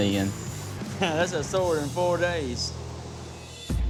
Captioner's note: laughs